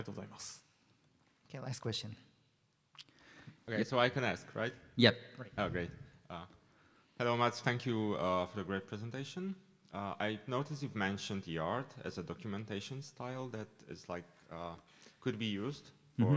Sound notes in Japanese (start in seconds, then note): none